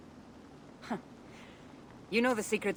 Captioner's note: laugh